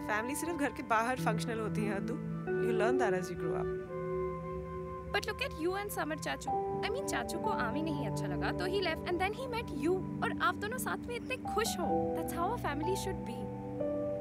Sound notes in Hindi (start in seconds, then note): none